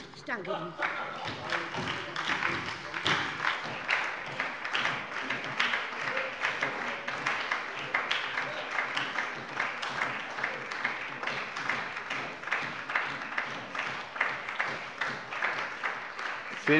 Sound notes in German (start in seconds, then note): 1.3 Beifall bei der SPD und der LLINKEN